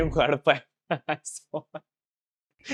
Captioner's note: laughing